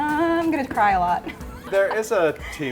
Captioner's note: laughs